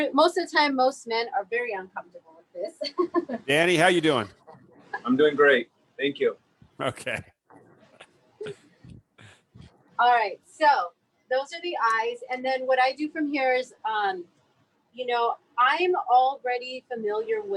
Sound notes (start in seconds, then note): 2.8 chuckles; 6.8 laughs